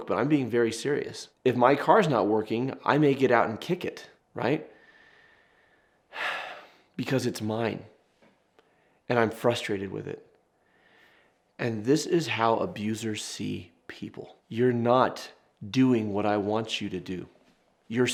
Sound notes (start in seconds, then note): 6.1 sighing